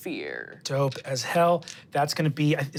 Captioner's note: dice rolling